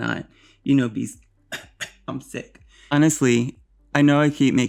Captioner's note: fake cough